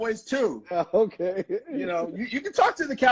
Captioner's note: laughing